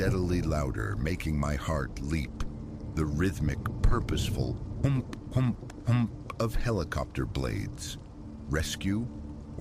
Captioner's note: whump-whump-whump